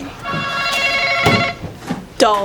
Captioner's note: buzzer buzzes